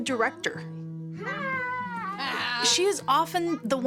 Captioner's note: children laughing